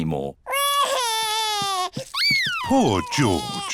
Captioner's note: crying